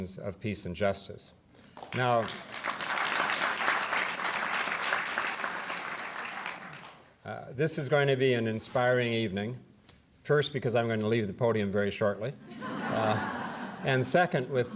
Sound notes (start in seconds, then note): 1.7 applause; 12.4 laughter